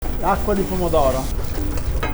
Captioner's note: Italian